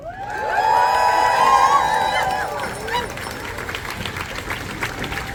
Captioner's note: applause